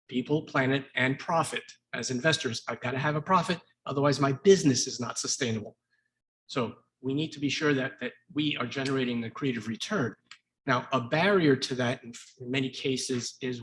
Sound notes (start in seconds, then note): none